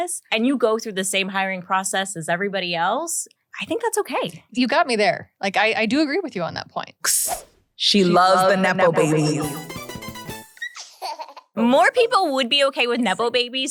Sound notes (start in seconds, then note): 7.1 hisses; 9.2 fast whimsical music; 10.5 baby laughs